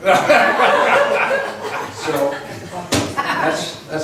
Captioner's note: laughs